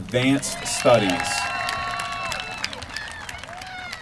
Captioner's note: applause